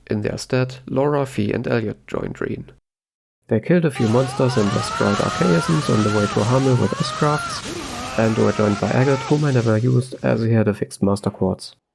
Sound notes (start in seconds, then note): 6.5 Laura exerting herself in the background